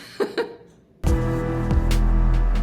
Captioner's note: laughs; upbeat music